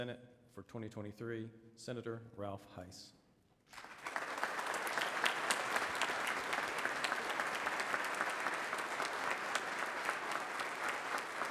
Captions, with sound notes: pro tempore of the North Carolina Senate for 2023, Senator Ralph Hise. [audience claps]